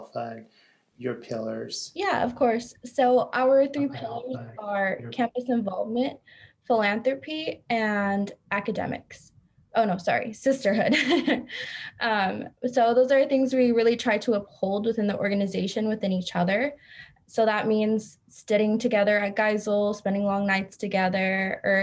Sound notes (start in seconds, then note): 10.6 laughs